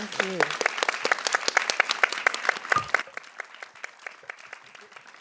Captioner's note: audience applauds